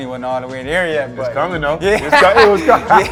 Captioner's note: laughing